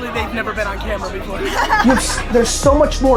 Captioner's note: both laughing